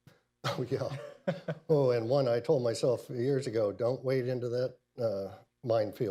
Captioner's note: laughter